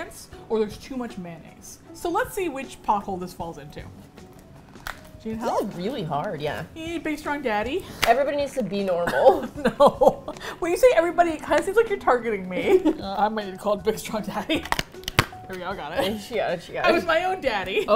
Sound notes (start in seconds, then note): 9.0 laughing; 9.0 both laugh